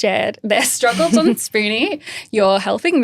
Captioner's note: laughing